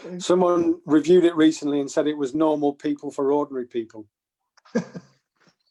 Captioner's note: laughter